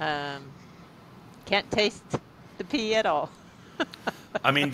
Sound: laughs

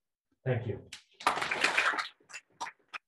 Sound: audience clapping

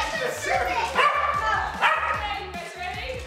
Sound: dog barks over chatter

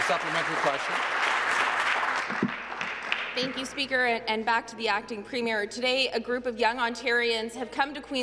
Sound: applause

